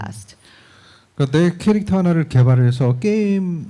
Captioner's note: speaking korean